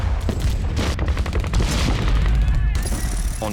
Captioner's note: firing